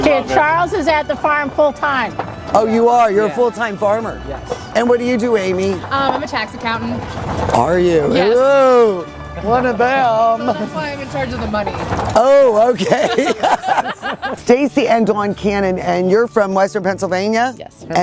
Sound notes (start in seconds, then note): 12.7 laughter